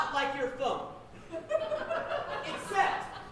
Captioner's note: audience laughing